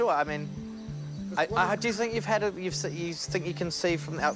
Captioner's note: stammers